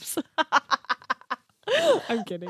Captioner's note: laughs